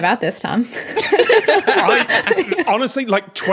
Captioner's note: laugh